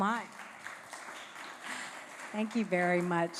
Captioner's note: applause